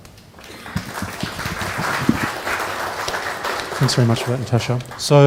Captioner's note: applause